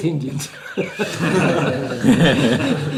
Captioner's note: laughs